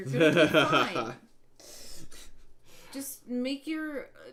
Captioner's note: laughing